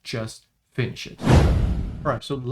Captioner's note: transition whooshes